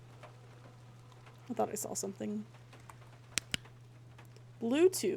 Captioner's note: flashlight Clicks Off